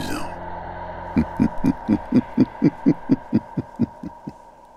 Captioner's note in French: ricanements